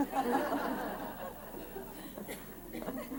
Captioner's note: laughter